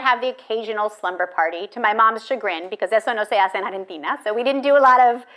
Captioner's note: speaking in foreign language